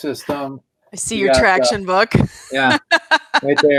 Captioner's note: laughs